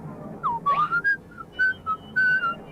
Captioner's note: whistles